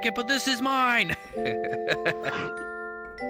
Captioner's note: chuckling